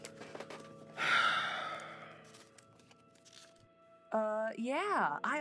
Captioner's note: Radovan exhales